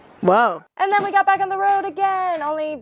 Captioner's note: voiceover